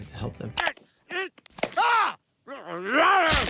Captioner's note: Brian screaming; Peter grunting; Brian growling